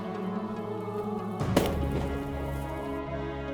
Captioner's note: gun shot